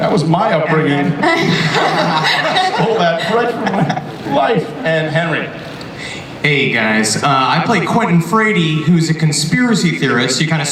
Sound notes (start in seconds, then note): 1.1 panelists laugh